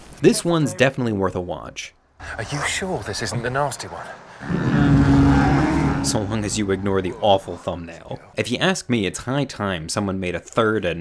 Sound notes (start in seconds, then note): 4.4 monster growling